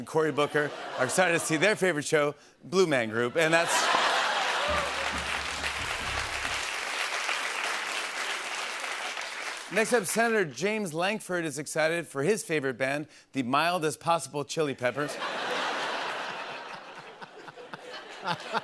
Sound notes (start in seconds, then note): 3.4 laughter and applause; 15.0 laughter